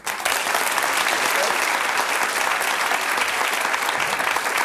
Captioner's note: audience applauds